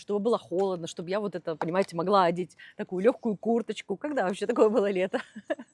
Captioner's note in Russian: смех